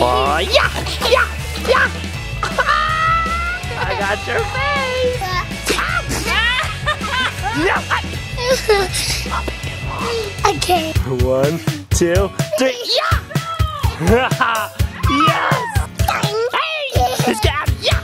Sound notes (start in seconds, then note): 0.4 laughs; 2.5 laughs; 5.4 laughing; 14.0 laughs